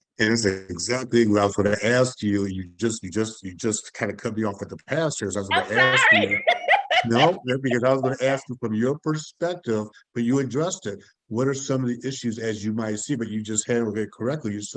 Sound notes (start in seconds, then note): 6.8 laughing